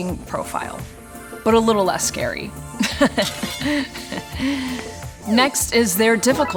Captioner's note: forced laugh